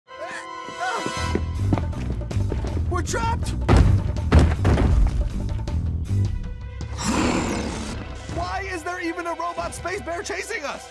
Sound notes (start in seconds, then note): 3.6 stomping; 6.9 roaring